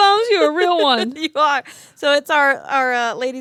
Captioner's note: laughs